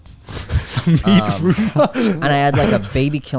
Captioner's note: all laughing